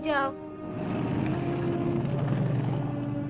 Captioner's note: car revving